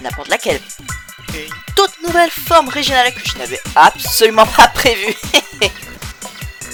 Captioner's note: tiny chuckles